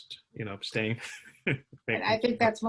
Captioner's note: laughter